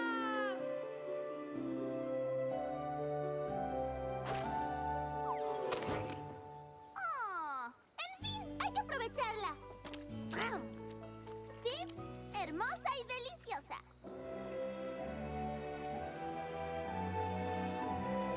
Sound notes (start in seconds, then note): 6.2 thunk; 10.5 slurp